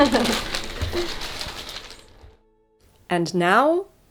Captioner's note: plastic crinkling